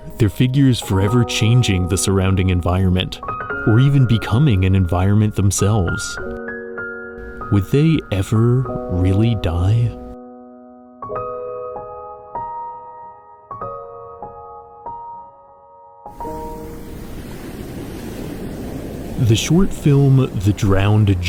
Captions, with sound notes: their figures forever changing the surrounding environment, or even becoming an environment themselves? Would they ever really die? (Waves Crashing) The short film The Drowned